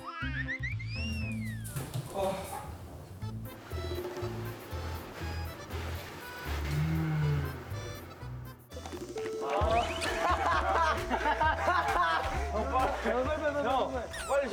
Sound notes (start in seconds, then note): 9.1 rushing